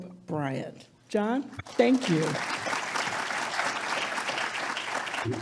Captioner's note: audience applauds